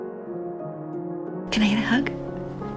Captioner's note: voiceover